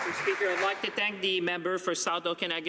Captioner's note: some Applause